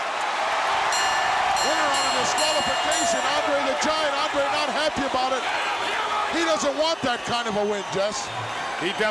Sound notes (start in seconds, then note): 0.7 crowd cheering; 0.7 bell ringing